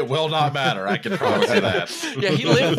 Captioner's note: laughter